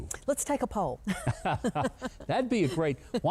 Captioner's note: both laughing